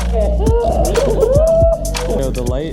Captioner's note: gasps